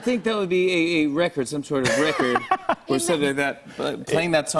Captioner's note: laughs